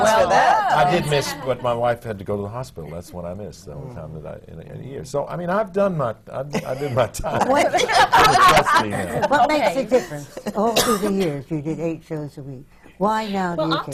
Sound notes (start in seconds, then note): 6.5 laughter